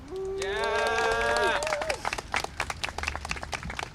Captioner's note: applause and cheering